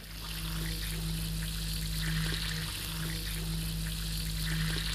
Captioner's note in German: Zischen und Brodeln